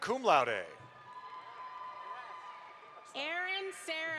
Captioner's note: audience applauds